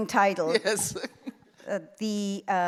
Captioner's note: laughing